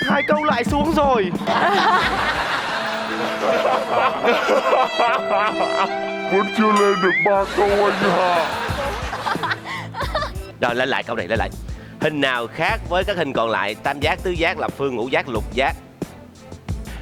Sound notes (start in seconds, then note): 7.4 laughing